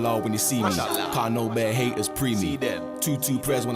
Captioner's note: non-english